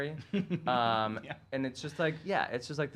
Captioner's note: chuckles